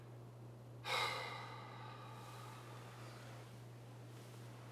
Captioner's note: Addison exhales loudly